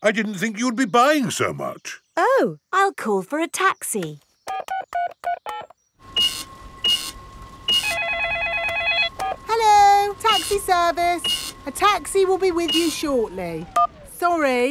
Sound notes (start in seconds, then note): 4.5 dialing; 6.1 cash register beeping; 7.4 beeps; 7.7 cellphone ringing